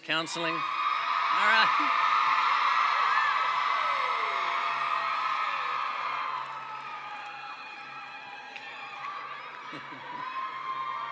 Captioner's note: cheering